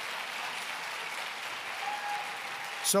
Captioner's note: applause